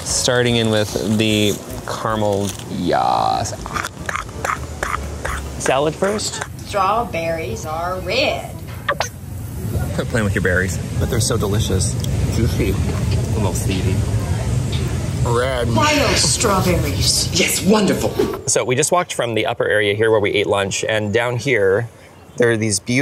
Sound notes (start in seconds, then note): 3.7 munching sounds